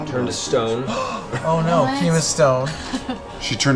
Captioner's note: gasps